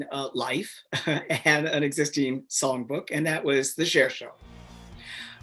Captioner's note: chuckles